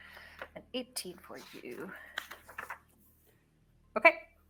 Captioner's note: paper shuffling